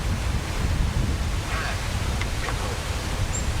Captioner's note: Ovilus Speaking